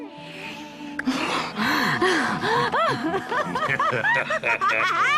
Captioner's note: both laughing